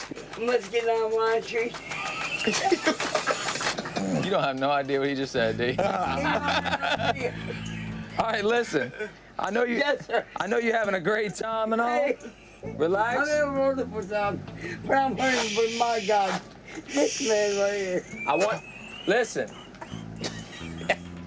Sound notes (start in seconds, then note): 1.5 laughter; 14.9 shushes; 19.3 laughter